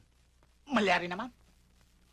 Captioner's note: speaking in native language